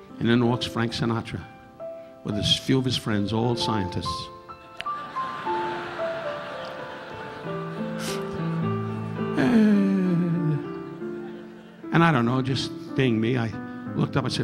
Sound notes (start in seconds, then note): 4.8 audience laughing; 5.9 relaxing piano music continues; 7.8 Don chuckling; 9.3 Don humming